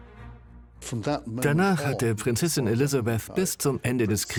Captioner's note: voiceover